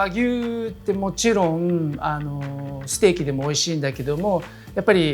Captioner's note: speaking Japanese